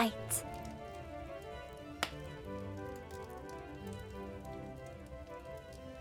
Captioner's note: lively instrumental music; fire crackling